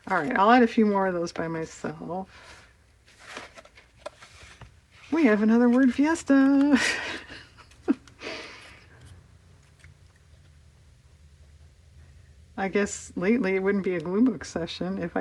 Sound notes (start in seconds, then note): 11.0 laughs